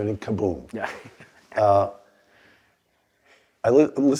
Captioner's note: laugh